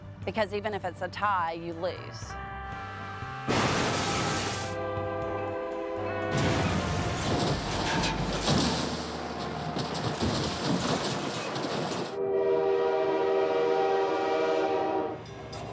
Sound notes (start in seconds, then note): 2.6 horns honking; 2.6 vehicles thudding; 11.9 train horn honking